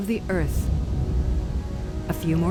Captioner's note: thunder